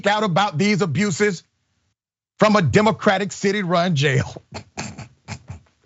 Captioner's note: laugh